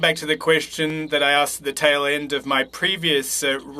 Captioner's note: speaking French